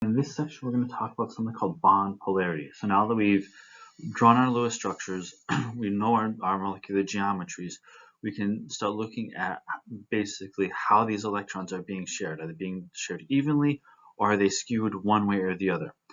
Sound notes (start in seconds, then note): 5.4 cough